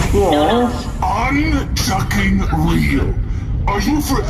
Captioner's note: exasperated